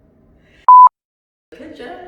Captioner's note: beep